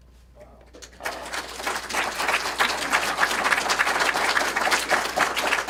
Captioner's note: applause